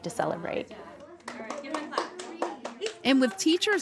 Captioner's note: students clapping